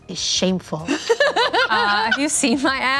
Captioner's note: laughing